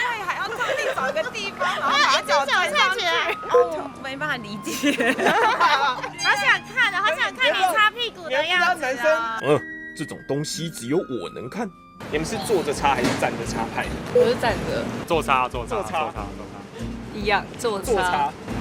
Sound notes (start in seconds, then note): 4.6 laughing